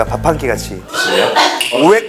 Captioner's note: gags